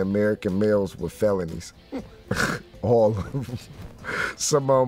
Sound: laughs

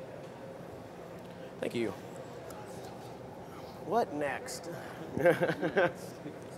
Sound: laughter

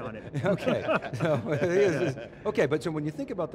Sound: laughs

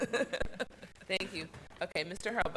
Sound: laughs

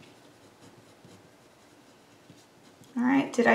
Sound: pen scribbles

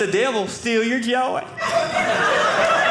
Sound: audience laughing

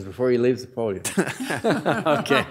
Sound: audience laughing

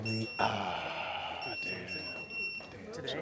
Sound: wand beeps

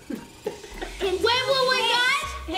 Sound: laughs

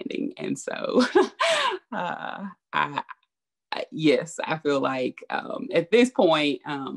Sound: laughs

